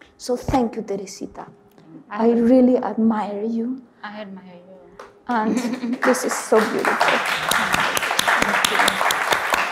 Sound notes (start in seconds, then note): 5.9 audience applauds